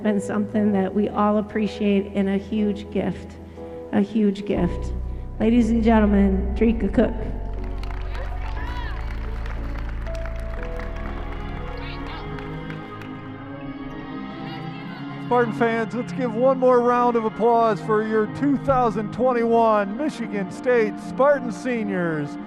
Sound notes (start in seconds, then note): 7.1 soft music; 7.3 crowd clapping; 11.3 soft music